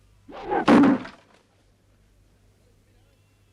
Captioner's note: knife thuds